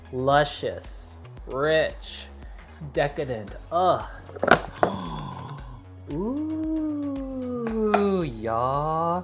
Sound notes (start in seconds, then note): 4.1 gasps; 4.2 groans